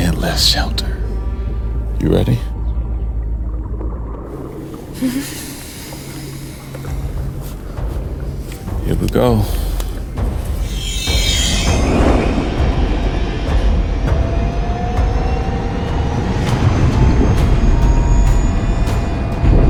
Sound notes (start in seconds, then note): 4.1 water bubbling; 10.6 suspenseful music; 15.6 sub whirring